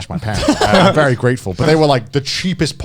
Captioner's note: chuckling